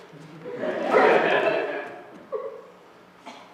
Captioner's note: laughter